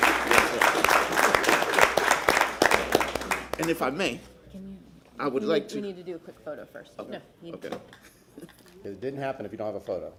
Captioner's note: applause